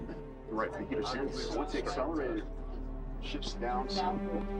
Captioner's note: navigators chattering; tense music